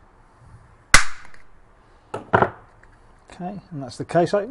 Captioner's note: pop